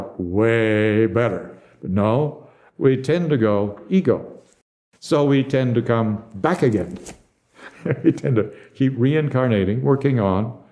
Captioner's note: laughs